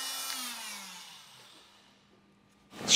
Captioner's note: whirring stops